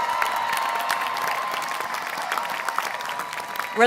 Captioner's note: applause